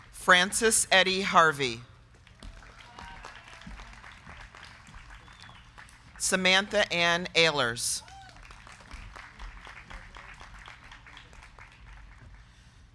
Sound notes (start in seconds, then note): 2.1 crowd clapping; 2.4 crowd cheering; 8.4 crowd clapping